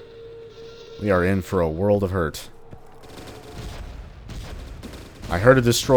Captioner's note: Destroyer howl, tons of gunfire